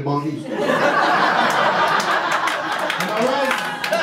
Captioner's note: audience laughter